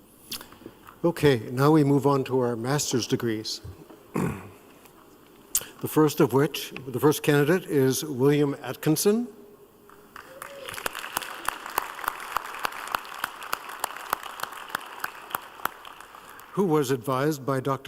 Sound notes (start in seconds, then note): 13.1 applause